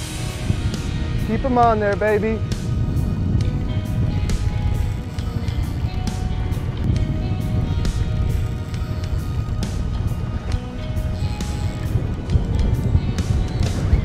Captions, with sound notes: Keep them on there, baby. (upbeat rock continues) (reel creaking)